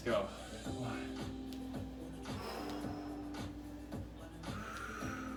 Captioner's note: breaths heavily; upbeat music